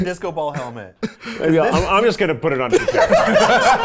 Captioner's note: chuckling; people laughing